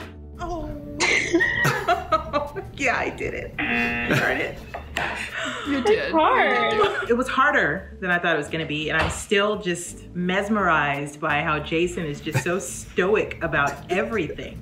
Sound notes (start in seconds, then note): 0.9 laughs; 3.6 buzzer